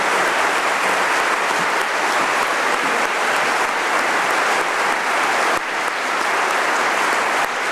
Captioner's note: applause